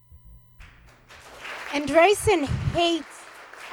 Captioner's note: applause